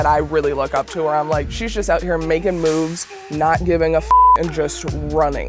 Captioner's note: beep